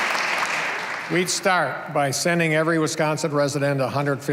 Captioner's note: applause